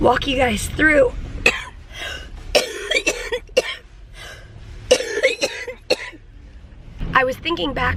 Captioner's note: coughing